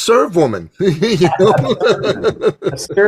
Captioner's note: laughs